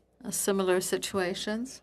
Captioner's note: speaking French